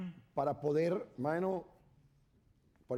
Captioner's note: speaking spanish